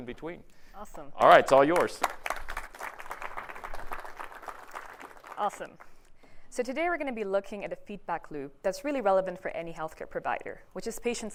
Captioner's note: applause